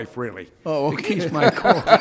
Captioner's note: laughing; laughing drowns out speaker